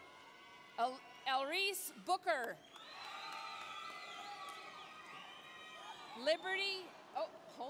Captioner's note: applause, cheering